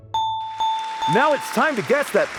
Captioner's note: bell ringing